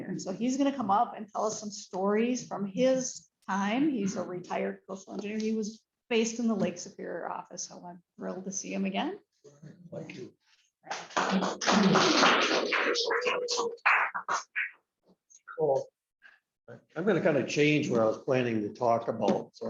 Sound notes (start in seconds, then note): 10.9 applause